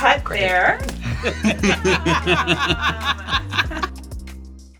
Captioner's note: both laughing